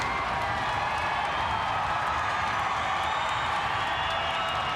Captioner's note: crowd cheering continues